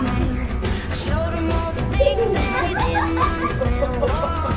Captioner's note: audience laughs